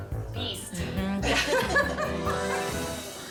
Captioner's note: laughter